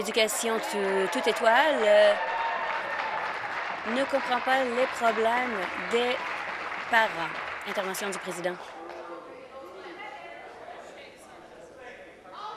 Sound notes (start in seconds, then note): 7.7 applause